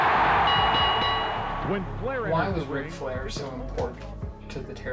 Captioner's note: crowd cheering; bell dinging